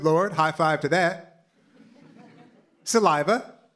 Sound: laughter

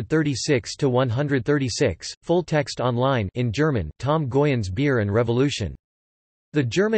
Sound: in German; in German

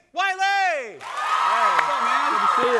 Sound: crowd cheering

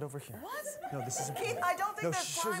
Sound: audience laughing

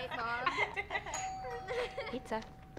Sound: loud doorbell

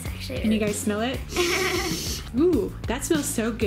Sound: giggling

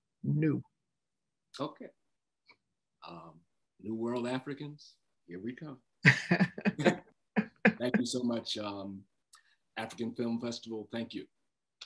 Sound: laughter

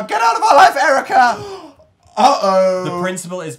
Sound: gasp!

